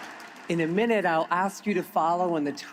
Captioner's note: applause